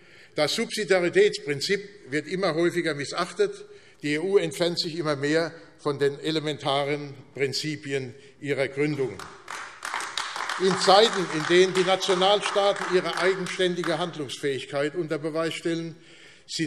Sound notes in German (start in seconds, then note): 9.0 Beifall AfD